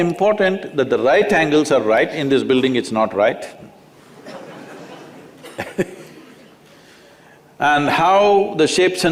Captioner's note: laughter